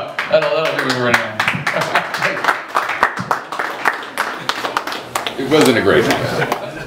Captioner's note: applause